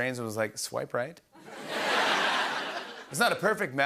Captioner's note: laughter